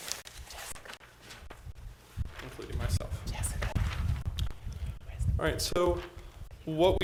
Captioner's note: board chatting quietly